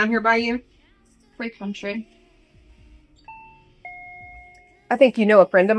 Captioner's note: door alarm beeping